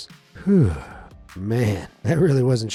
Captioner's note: narrator sighing in relief